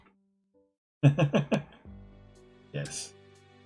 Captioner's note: chuckles